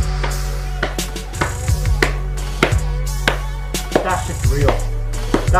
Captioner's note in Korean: 말이 필요 없는 물개박수